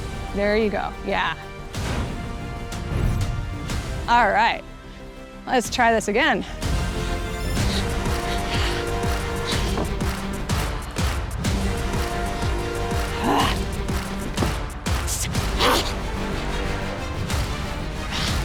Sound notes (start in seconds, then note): 7.5 panting and low growls